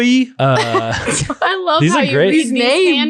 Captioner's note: laughing